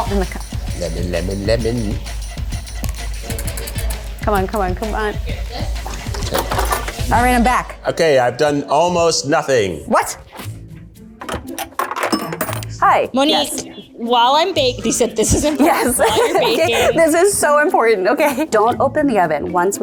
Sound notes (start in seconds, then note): 11.2 quarter clinking; 14.8 laughs